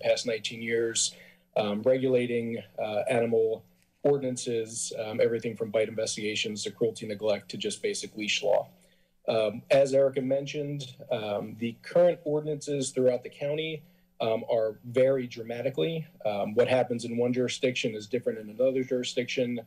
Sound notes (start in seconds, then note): none